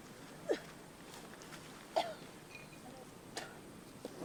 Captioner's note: coughing